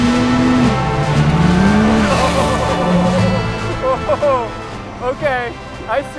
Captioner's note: exciting music; truck engine roaring